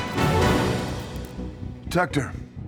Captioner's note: light buzzing